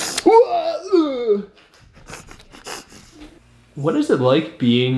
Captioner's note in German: stöhnt